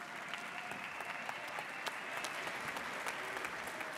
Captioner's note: audience applauds